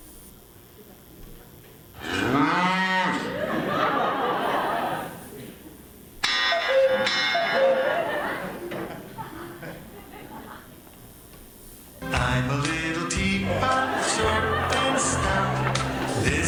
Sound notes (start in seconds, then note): 2.0 cow moos; 2.0 audience laughs; 6.2 cookoo clock rings; 6.3 audience laughs